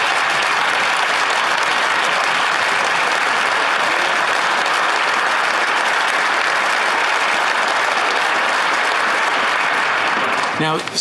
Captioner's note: applause